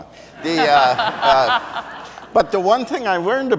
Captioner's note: audience laughs